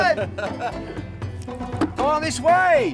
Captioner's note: laughing